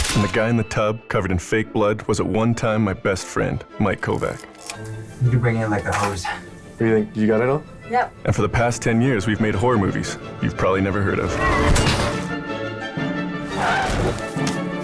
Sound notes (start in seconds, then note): 13.4 tires screeching